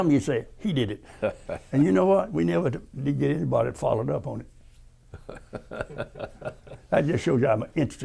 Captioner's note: laughter